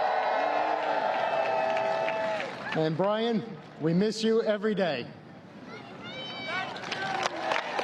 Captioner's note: applause